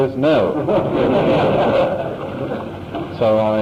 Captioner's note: laughter